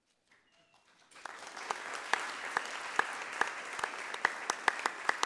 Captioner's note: audience applauding